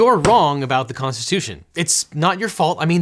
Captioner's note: stamp thumping